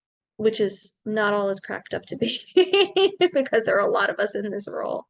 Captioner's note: chuckling